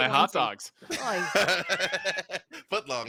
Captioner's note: laughs